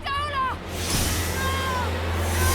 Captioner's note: ice whooshing